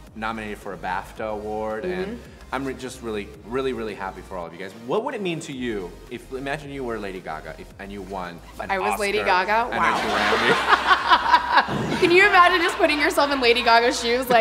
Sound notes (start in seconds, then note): 9.7 laughing together